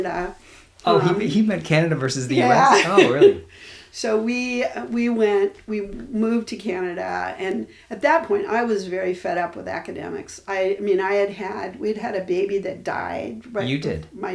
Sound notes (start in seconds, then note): 2.1 laughs